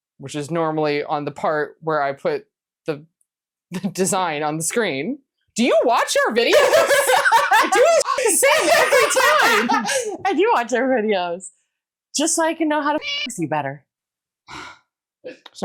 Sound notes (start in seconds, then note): 8.3 caw; 13.0 meow